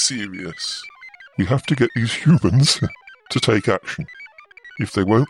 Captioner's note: laughs